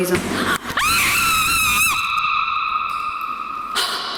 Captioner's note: screaming